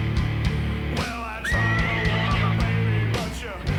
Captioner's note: screams